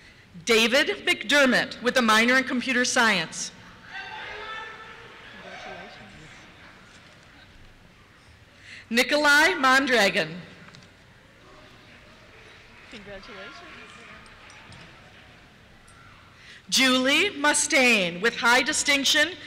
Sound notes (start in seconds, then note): 3.8 cheers; 11.1 applause